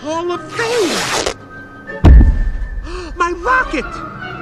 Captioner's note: fabric rips; gasps